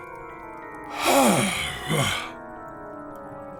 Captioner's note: yawning